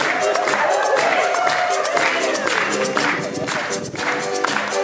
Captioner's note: audience cheering